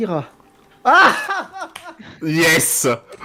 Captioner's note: laugh